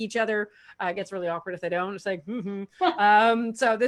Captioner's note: murmur